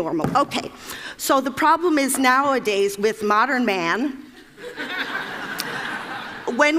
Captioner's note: Laughter; 笑聲